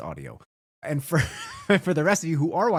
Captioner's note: laughs